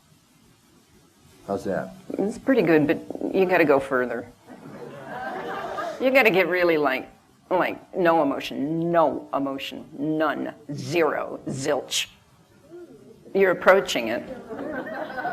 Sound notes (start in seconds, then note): 4.5 laughter